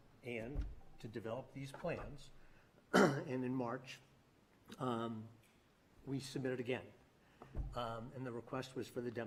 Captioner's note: clears throat